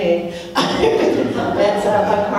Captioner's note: crowd laughing; laughs